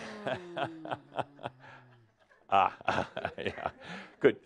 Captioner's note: Adamus chuckles